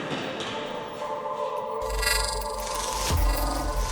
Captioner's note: creepy digital glitches